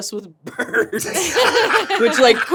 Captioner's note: laughing